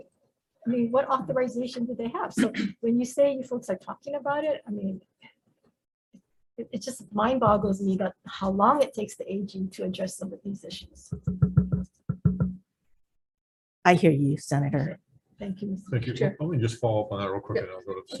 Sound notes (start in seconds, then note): 2.4 clears throat